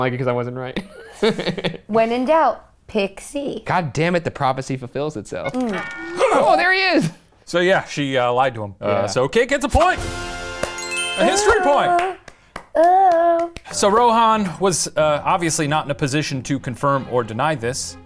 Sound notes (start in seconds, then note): 0.8 both laughing; 6.7 farts